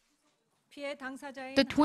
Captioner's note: Korean